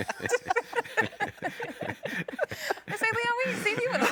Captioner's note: all laughing